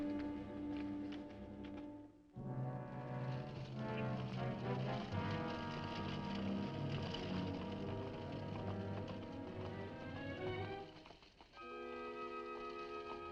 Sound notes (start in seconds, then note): 0.1 dramatic music; 3.5 horse hooves clopping; 6.3 dramatic music